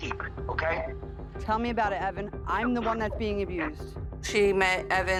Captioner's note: on cell phone